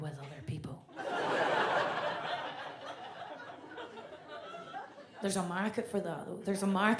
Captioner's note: audience laughs